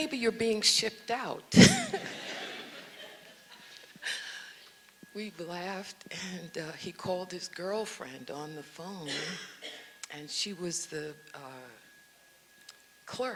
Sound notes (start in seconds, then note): 1.6 audience laughs